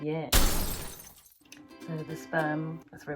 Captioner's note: glass shuttering